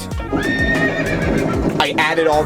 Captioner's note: horse whinnying